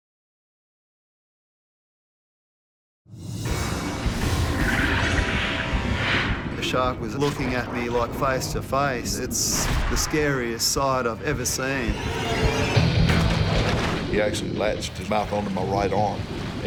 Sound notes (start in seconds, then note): 0.4 computerized jingle; 3.4 water swishes; 11.4 strings screech